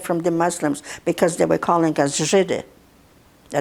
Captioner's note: russian